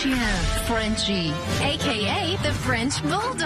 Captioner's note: speaks in foreign language